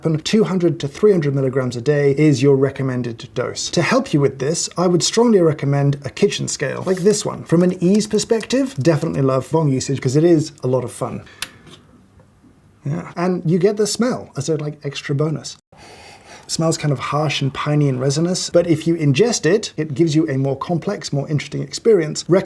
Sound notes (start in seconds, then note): 8.2 ominous typing; 11.4 nice sharp click